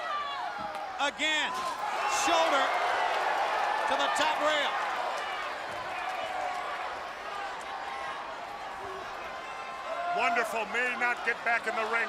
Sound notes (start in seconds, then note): 5.3 crowd chatter